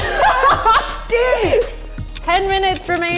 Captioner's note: laughing